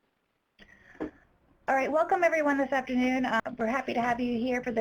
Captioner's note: voiceover